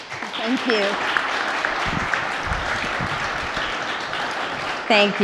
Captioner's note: applause